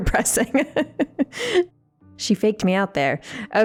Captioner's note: laughing